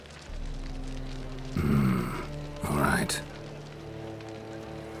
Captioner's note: hesitantly